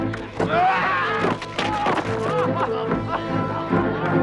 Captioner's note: guard screams